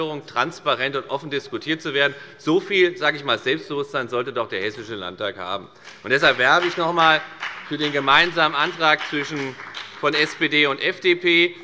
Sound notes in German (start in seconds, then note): 5.8 Beifall bei der FDP